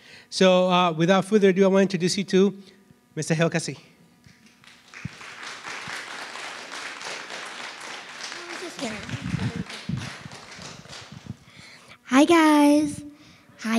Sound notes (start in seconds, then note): 4.3 audience applauds